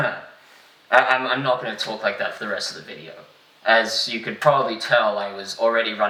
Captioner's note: cough cough